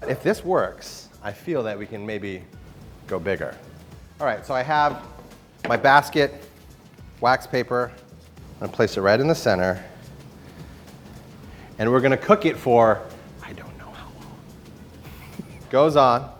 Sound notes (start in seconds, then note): 13.5 whispering; 15.0 laughing